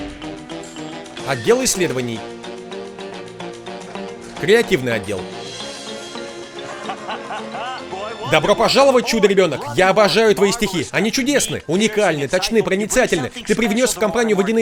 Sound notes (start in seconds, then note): 6.4 <i>laughing</i>